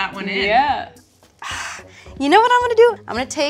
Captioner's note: exhales sharply